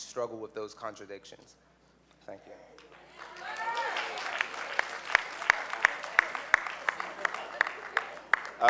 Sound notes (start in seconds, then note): 2.8 applause